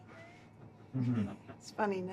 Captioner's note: laughing